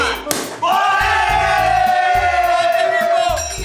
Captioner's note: shouts of joy